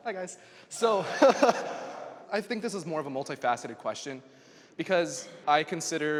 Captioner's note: laughs